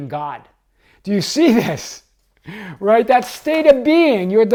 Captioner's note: chuckles